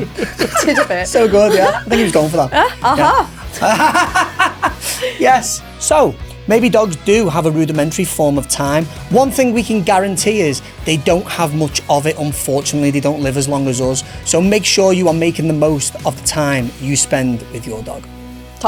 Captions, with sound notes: You did a bit. So good, yeah. I think he was going for that. Aha. [laughs] Yes. So, maybe dogs do have a rudimentary form of time. One thing we can guarantee is they don't have much of it, unfortunately. They don't live as long as us. So make sure you are making the most of the time you spend with your dog.